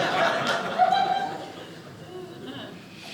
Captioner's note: audience laughing